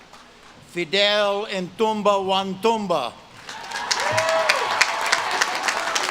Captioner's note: audience claps and cheers